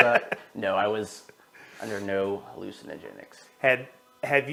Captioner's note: laughter